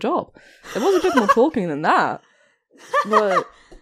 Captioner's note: Alyssa laughs